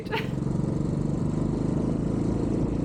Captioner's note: bike engine